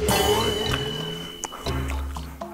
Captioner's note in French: Mâcher le reste